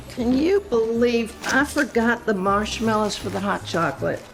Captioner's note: none